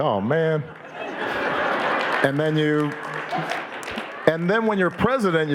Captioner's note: audience laughing and applauding